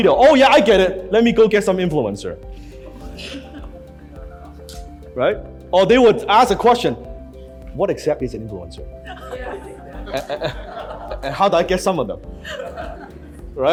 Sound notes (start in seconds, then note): 3.1 crowd laughs; 9.0 crowd agrees and laughs; 12.4 crowd laughs